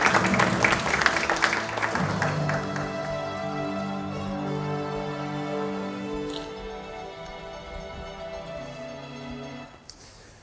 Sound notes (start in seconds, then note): 2.4 applause